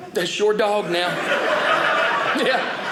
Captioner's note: audience laughing